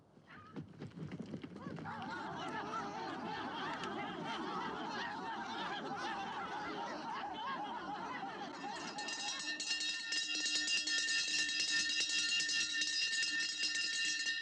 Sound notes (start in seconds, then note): 1.8 excited chattering; 8.5 bell rings